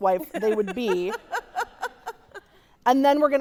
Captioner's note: laughing